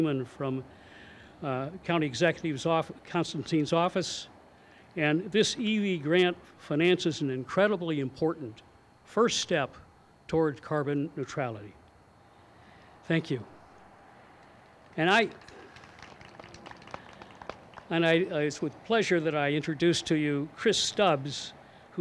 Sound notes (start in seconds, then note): 14.9 crowd applauds